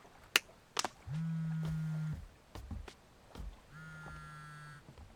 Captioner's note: phone buzzing